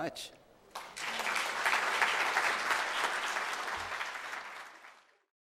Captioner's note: audience applauding